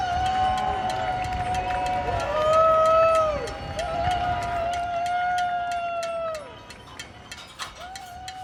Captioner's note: distant hollering and pan clanging